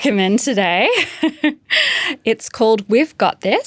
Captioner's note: chuckling